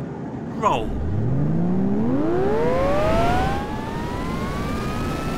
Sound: engine whirs

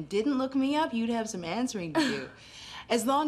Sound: laughing

